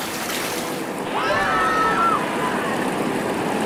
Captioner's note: screaming